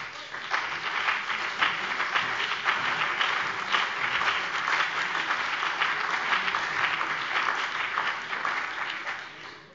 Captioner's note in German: Beifall BÜNDNIS 90/DIE GRÜNEN, CDU, DIE LINKE und vereinzelt SPD